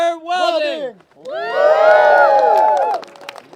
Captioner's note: cheering